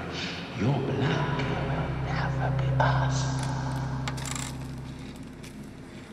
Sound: voice reverberates

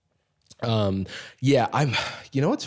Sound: sighs

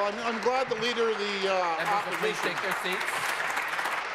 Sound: applause

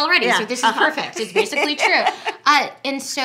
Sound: laughing

